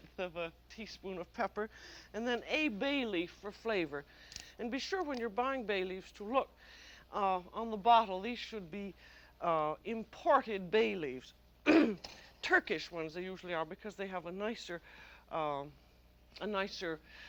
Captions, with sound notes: I mean an eighth of a teaspoon of pepper. And then a bay leaf for flavor. And be sure when you're buying bay leaves to look on the bottle. These should be imported bay leaves. (clears throat) Turkish ones, they usually are, because they have a nicer, um...